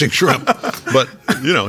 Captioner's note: laughing